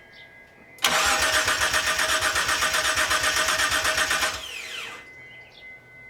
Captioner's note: engine cranks over